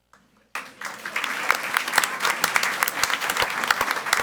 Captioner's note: audience applauds